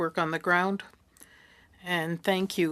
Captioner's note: speaking French